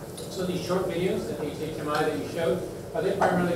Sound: voiceover

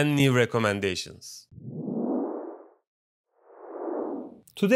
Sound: swish

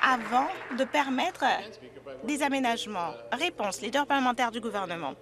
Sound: some Applause

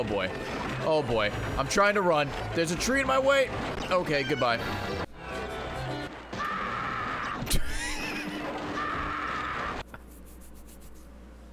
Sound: laughs; screams

